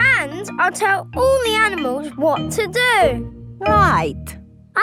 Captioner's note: none